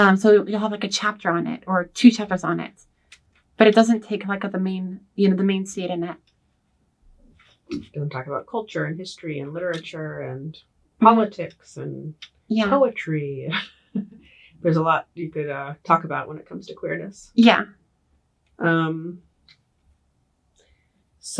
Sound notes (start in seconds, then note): 13.8 laughs